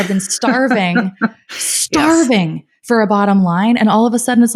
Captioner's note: laughing